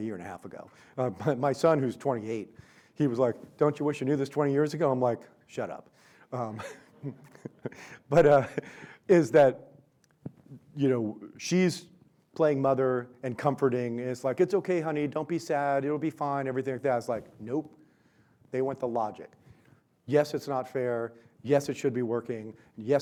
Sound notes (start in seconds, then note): 6.7 audience laughs